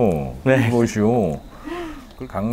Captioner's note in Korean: 웃음